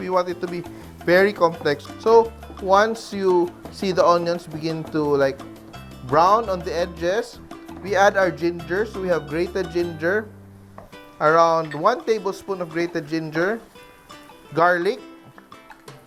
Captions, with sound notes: [Sizzle] We want it to be -- [Sizzle] [Sizzle] very complex. So, -- once you -- see the onions begin to, like, -- brown on the edges, -- we add our ginger. So, we have grated ginger. Around 1 tablespoon of grated ginger. Garlic.